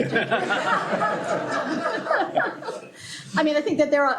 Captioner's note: laughter